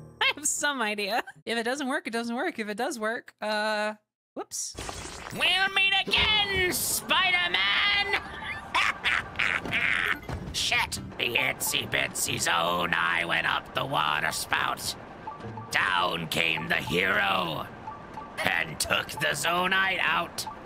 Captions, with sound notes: I have some idea... If it doesn't work, it doesn't work. If it does work, uh... Whoops! [Green Goblin Voice] “We’ll meet again, SPIDER-MAN!” [Evil Green Goblin Laughter] [Green Goblin Voice] “Shit.” [Green Goblin Voice] “The itsy-bitsy Zonai went up the water spout...” [Green Goblin Voice] “Down came the hero... And took the Zonai out.”